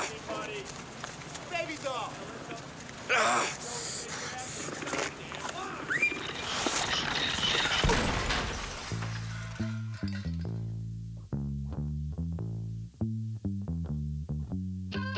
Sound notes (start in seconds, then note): 3.0 grunting